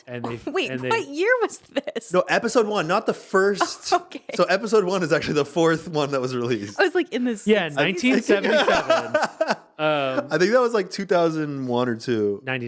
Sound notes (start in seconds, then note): 3.5 laughing; 7.8 laughing